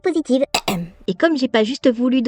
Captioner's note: ahem